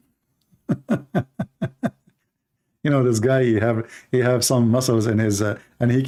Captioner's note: Ketawa